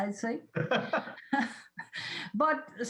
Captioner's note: laughs